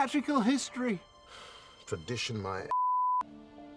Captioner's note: sighing